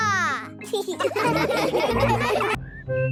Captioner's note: laughing